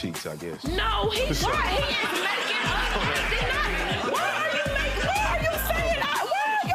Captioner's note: audience laughs